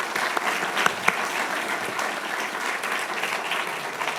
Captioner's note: audience applauding